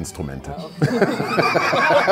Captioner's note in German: Lachen